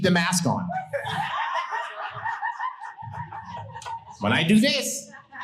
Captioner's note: audience laughing